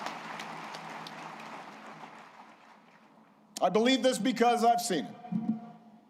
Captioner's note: applause